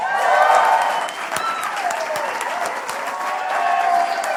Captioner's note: applause